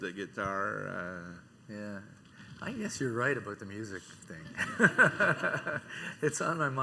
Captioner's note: laughing